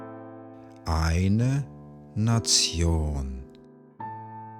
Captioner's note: german